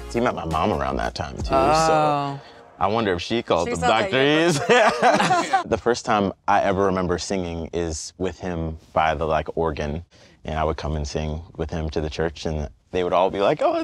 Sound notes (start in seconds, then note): 4.4 laughs